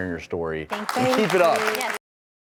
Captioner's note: crowd clapping